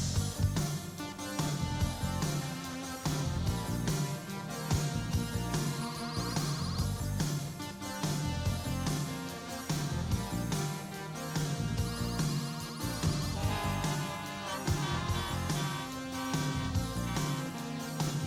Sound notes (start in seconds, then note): 13.3 horns honk